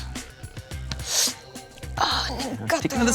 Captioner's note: sniffs loudly